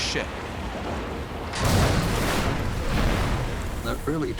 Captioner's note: explosion